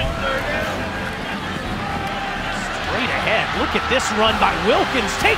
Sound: crowd noise

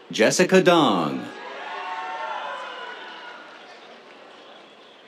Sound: cheers

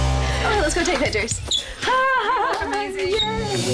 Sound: laughs

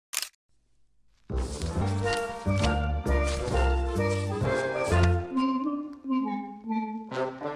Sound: whimsical upbeat music; papers whooshing

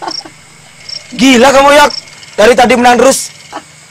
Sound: laughs

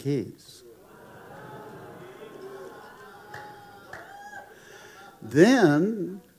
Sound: congregation applauding

